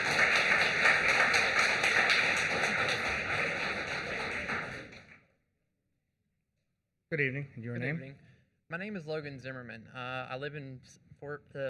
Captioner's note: applause